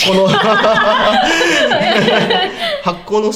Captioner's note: both laugh at the stupid question